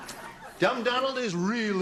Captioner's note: laughter